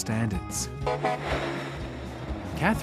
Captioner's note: truck horn honks